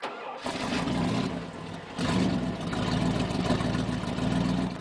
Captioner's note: car engine humming